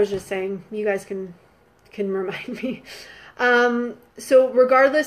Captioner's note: laughing